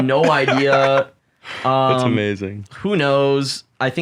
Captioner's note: laughs